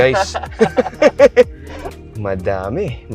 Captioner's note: both laughing